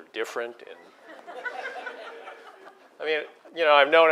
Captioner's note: laugh